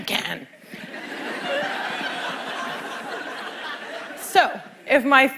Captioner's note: laughter